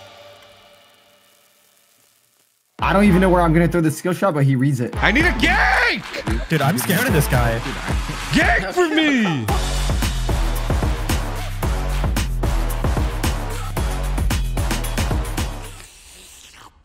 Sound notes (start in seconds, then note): 6.5 drone; 10.2 upbeat music